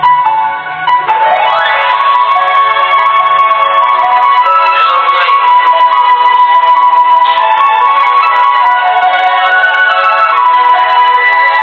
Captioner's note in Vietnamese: Vỗ tay